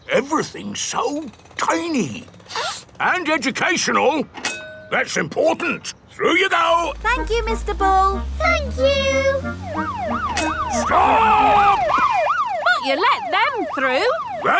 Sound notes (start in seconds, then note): 2.5 sniffs; 10.1 siren wailing